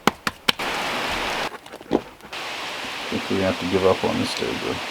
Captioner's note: tapping; rain pouring